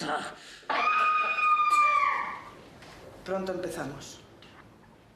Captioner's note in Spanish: Gritos